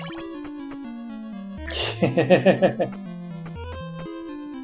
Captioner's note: chuckles